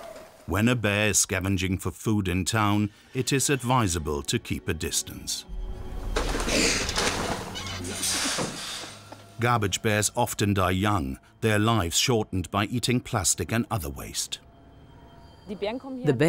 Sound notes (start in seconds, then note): 6.4 bear growling; 15.1 speaking in foreign language